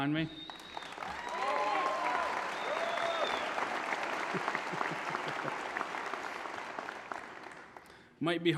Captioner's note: applause